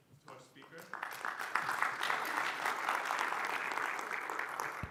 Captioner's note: audience applauding